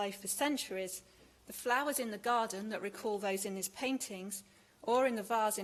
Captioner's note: none